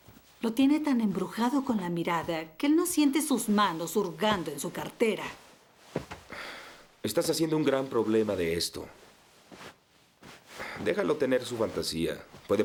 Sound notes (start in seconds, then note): none